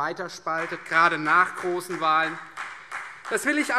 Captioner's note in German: Beifall Freie Demokraten